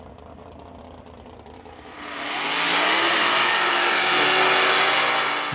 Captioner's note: buggies revving